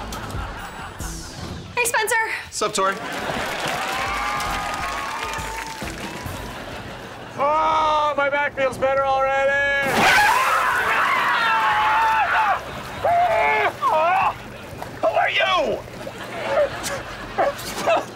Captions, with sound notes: - Hey, Spencer. - 'Sup, Tori. Oh, my back feels better already. [screaming] Who are you? [gasping for air] I'm... I'm S...